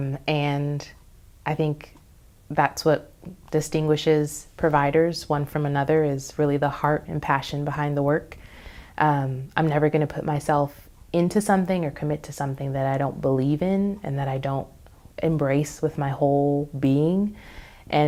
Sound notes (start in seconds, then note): none